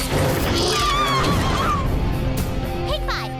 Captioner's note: Fair City Citizens screaming